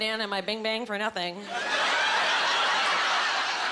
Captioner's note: laughing